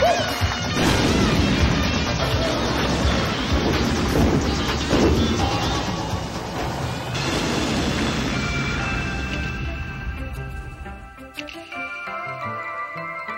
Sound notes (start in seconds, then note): 0.0 audience applauds; 0.7 explosion sounding; 3.9 gun firing; 7.3 explosion sounding; 10.3 light synth music